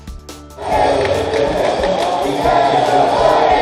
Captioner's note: crowd noise